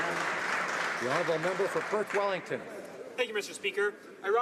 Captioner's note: some Applause